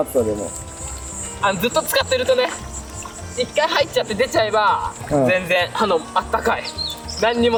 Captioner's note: laughs